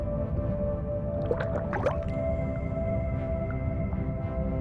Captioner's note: water sloshes; gentle music